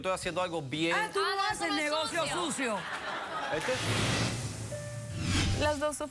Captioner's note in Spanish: risas